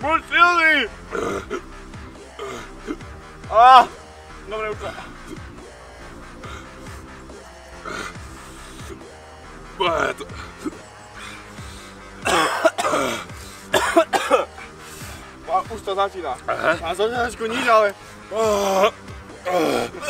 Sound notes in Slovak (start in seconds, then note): 1.1 podivné zvuky čkania; 2.7 hmp; 6.3 rôzne bránicové zvuky; 12.2 kašľanie; 12.2 super hlasný kašeľ; 18.5 masívne vypustenie vzduchu; 19.3 masívne vypustenie vzduchu #2